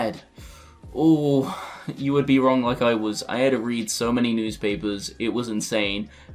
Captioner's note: sighs heavily